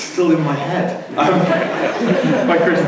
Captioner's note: laughter